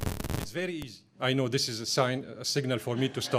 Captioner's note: microphone disruption